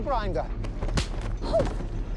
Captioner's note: hand slaps